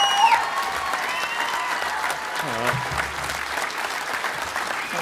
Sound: applause

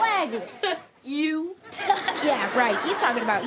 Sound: Dylan laughs

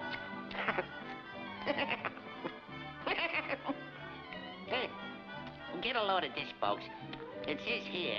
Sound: laughs

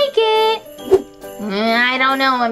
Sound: whoosh

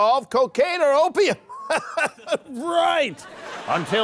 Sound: laughing

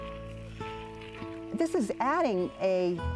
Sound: leaves crunching

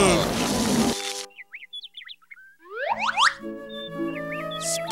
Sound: birds chirping

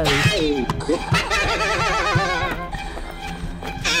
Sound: laughs

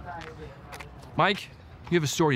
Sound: crowd chattering

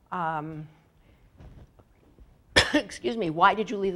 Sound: cough

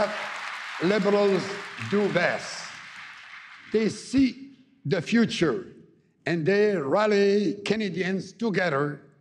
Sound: applause

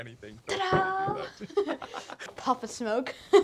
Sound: laughs

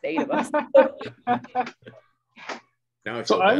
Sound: presenters laughing

